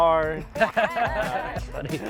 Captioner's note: laughing